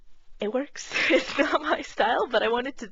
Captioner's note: laughing